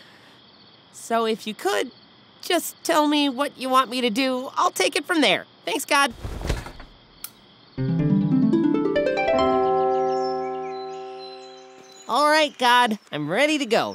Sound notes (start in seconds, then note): 9.5 church bell